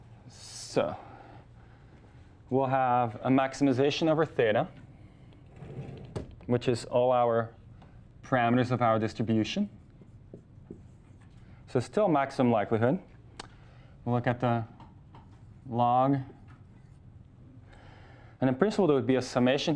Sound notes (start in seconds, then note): none